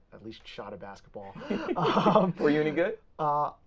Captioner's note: both laughing